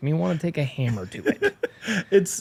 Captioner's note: laughs